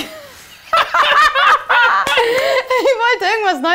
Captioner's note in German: alle lachen